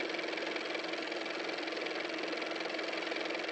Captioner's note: car motor